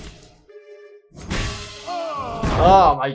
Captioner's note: armor clanging, King groaning